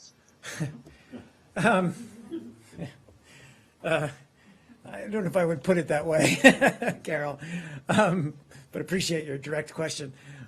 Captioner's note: laughter